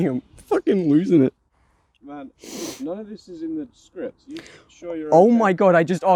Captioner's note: sniffs